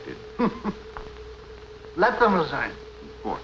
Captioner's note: scoffs